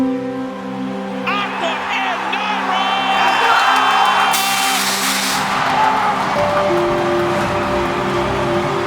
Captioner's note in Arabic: انفجار مدفع هوائي. تشجيع الجمهور